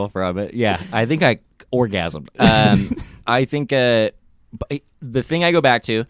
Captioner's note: laughs